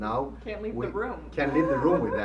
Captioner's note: laughing